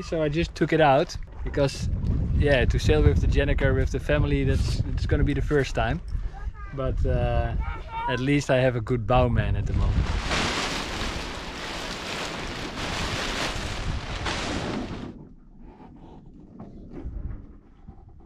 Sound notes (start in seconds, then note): 9.6 sails crunching; 15.5 wind blowing